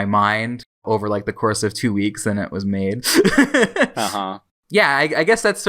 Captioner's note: laughs